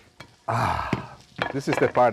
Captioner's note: sighs